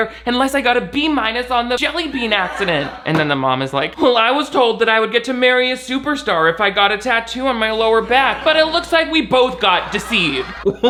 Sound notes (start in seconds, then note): 1.9 audience laughs; 10.6 audience laughs; 10.6 laughs